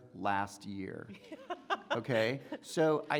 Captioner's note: woman laughing